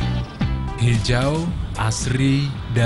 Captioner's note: non-english speech